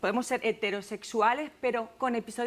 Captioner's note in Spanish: none